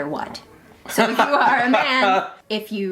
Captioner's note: laughing